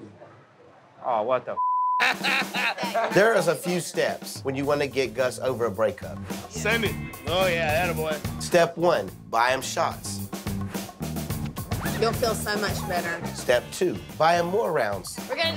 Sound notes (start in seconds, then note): 1.6 beep; 2.0 laughs